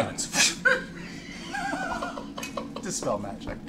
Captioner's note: laughter